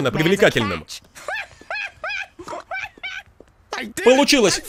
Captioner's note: raucous laughter and snorting